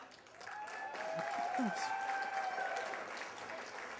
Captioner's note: applause